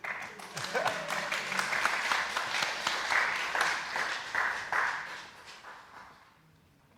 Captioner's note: applause